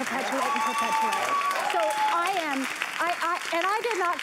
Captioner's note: applause